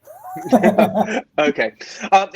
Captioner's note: laughing